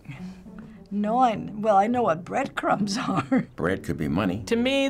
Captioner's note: laughing